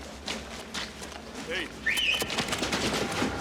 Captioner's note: whistles